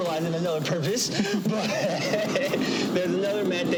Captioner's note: both laugh